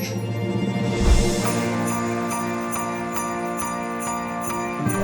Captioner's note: bells jingling